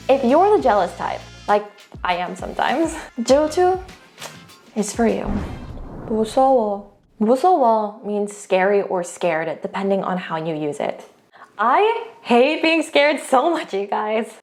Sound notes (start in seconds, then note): 3.1 speaking in Korean; 5.2 whooshing transition music; 6.2 speaks in Korean; 7.0 speaking in Korean